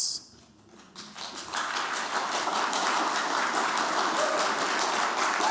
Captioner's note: applause